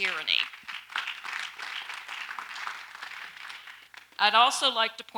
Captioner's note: audience applauds lightly